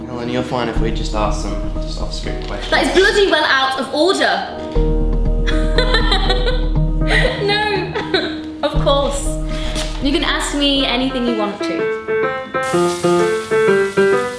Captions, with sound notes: That is bloody well out of order! (laughs to self) No, of course you can ask me anything you want to. (piano noises)